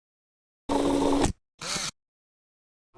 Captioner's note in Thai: เสียงเอฟเฟกต์